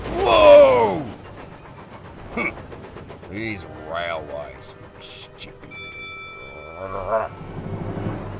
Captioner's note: growls